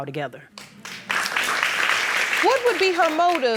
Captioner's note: applauding